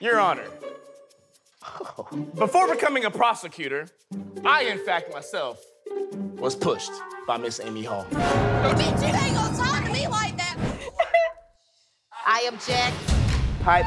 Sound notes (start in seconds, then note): 10.8 shushing; 10.8 cries